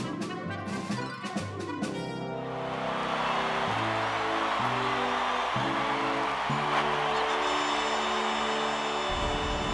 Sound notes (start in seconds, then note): 2.9 cheering